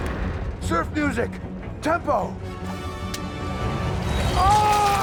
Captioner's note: screams